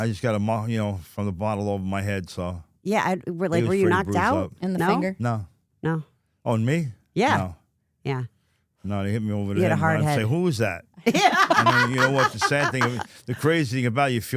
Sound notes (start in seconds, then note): 11.0 laughs